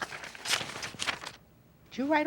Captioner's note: papers shuffling